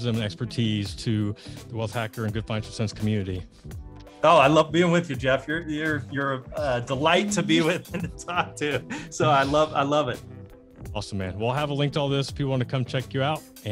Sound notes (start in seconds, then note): 7.1 laughs